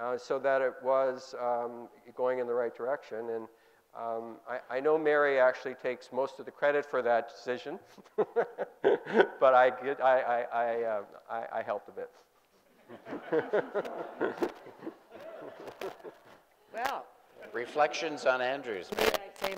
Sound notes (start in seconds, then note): 7.9 laughing; 12.7 group laughing